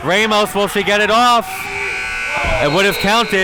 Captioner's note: buzzer buzzes